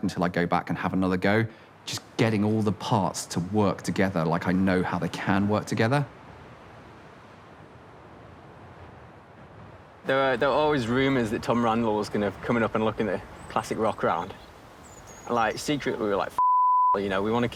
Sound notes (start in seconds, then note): none